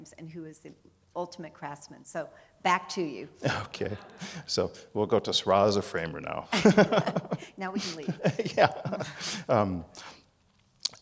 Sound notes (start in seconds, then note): 6.5 laughing